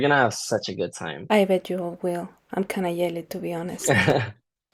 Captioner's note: laughter